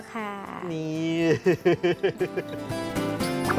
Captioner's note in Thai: เสียงหัวเราะ